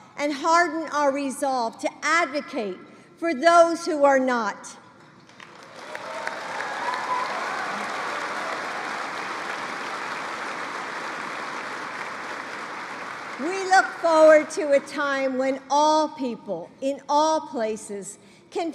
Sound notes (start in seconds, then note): 5.2 applause